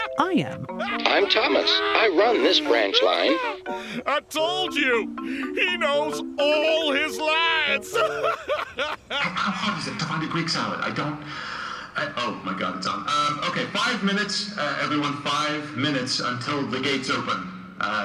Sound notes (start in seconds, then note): 1.0 through a voice box; 7.9 fifteen cackles more; 9.4 over the intercom